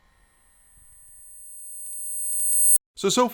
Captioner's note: growing static ring